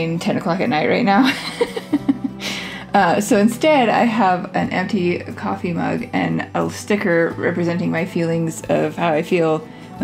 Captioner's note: laugh